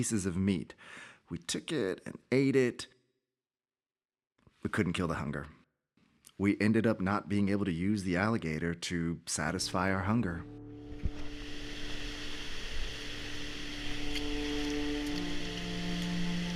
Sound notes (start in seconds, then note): 10.8 water hissing